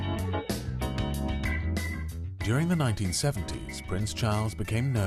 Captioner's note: upbeat music; voiceover